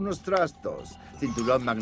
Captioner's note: snaps fingers